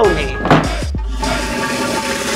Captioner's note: Door closes; Flushes